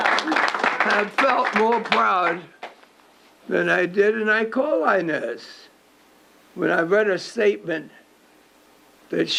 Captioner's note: applause